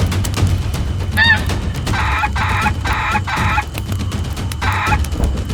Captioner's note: dinosaur squawking continues; dramatic drum music continues